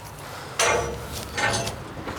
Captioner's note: metallic clattering